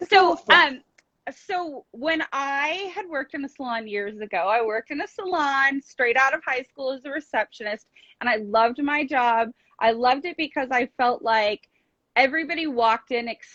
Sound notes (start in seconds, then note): none